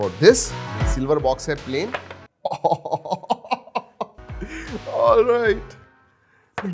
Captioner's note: laughs